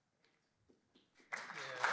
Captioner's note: applause